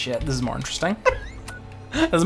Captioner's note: laughs